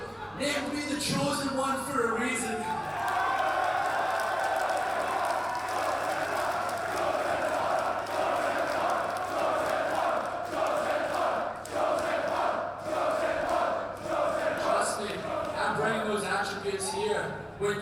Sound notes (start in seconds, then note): 3.2 crowd applauding; 3.2 crowd cheering